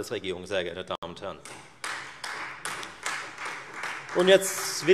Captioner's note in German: Beifall Freie Demokraten